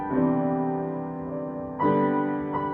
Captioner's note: none